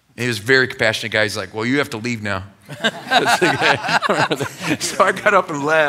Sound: laughter

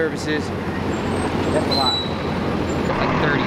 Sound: engines rumble

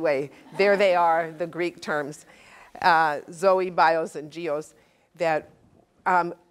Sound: laugh

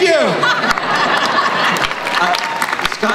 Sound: crowd applauds

